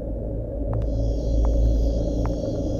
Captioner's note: Foot stepes